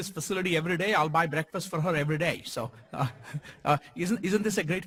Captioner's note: laugh